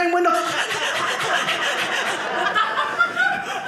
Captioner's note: audience laughing